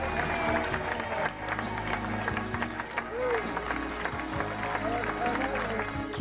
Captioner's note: crowd Clapping